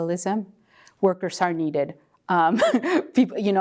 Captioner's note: laugh